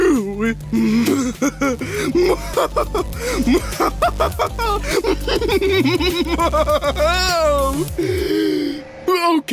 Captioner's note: evil, dramatic laugh